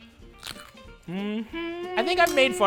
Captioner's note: broccoli crunching